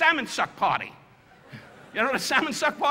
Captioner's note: audience laughing